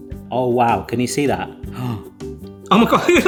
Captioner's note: gasps